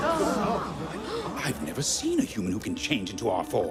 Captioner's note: all gasp